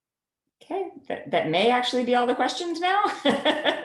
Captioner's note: laughter